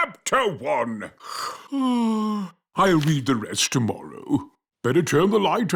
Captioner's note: yawns